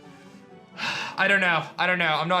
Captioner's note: sighs